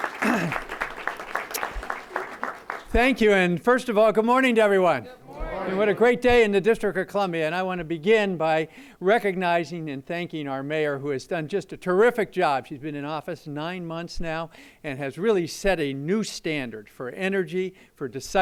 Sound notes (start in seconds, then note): 2.2 applause